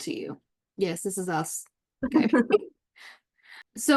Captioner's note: laughs